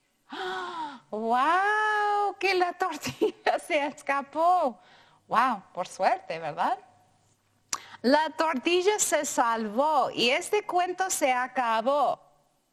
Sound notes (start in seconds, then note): 0.3 gasps; 2.5 speaking in foreign language